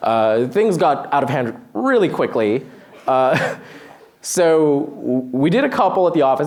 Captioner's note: laughs